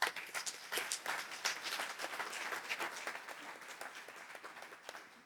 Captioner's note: applause